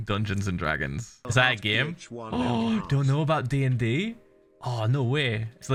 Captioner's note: gasps